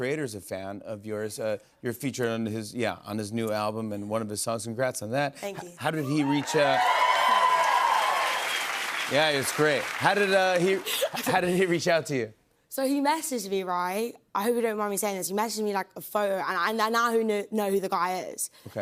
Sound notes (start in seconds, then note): 6.0 cheers and applause